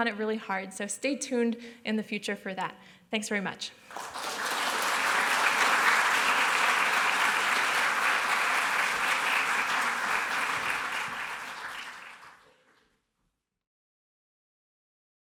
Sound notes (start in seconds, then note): 3.8 applause